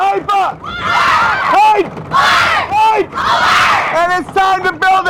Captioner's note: students screaming